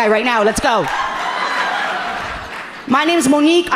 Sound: audience laughing amusingly

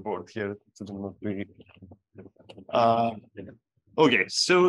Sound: faintly speaks

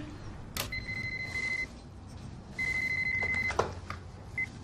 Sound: phone ringing

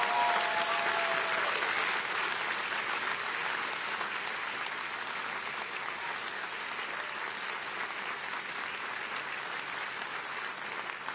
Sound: applause

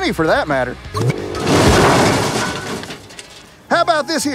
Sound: crash

